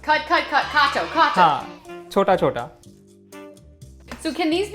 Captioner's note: speaking in Hindi